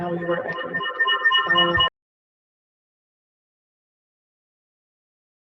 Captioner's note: audio feedback squealing